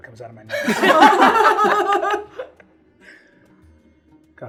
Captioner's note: laughing